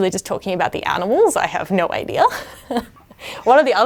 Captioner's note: laughs